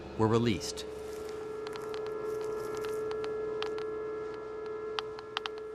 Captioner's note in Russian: Щёлкает счётчик Гейгера